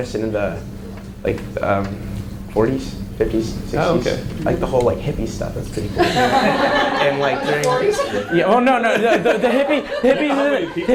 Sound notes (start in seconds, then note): 5.7 audience laughs